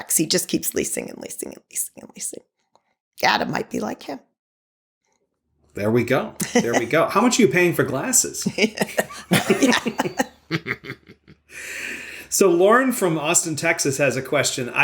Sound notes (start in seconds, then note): 8.4 laughter